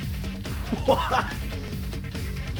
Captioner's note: giggles